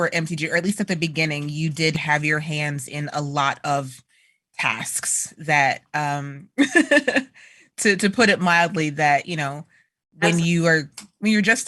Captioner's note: laughter